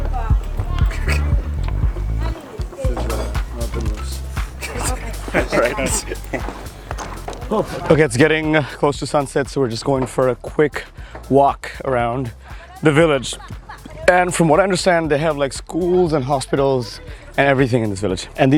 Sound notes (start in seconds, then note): 4.6 laughs